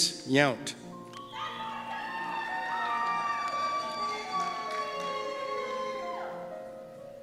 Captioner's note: cheers and Applause